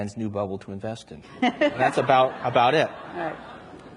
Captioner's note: everyone laughs